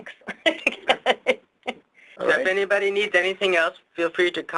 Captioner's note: laughs